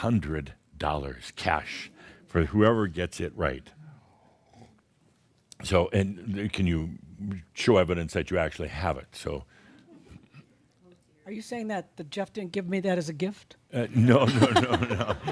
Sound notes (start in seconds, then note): 14.0 laughter; 14.0 they laugh